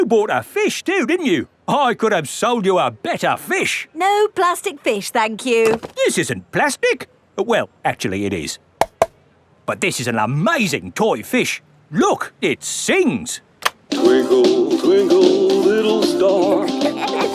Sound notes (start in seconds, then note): 8.8 taps; 16.7 both giggling